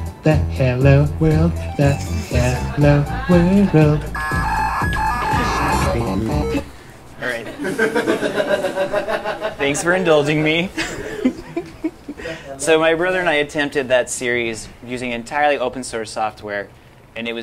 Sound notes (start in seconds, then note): 4.0 incomprehensible excited screeching; 7.4 laughter